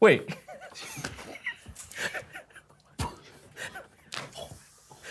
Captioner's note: group quietly snickering continues